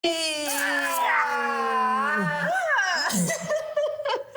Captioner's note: groan